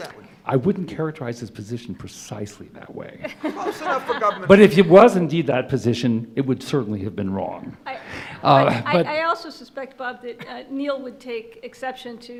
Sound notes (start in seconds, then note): 3.2 laughter